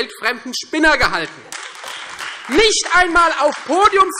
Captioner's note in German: Beifall Freie Demokraten und AfD